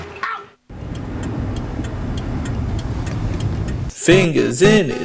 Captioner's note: turn signal sound I think? since they're in a car